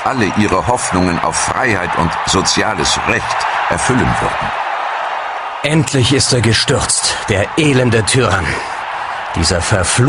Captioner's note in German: jubel